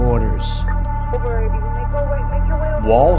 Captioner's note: police scanner